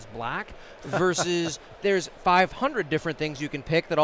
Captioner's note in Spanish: riéndose